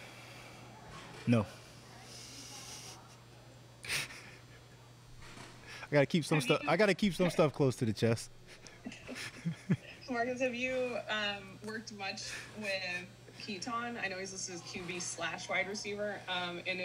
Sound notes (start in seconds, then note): 2.5 chuckles